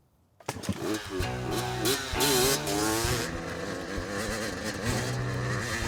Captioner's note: bike whirring; gentle music